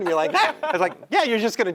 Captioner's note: laugh